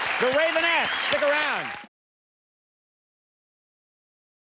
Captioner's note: claps